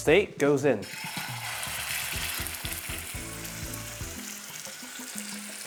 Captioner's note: sizzling sound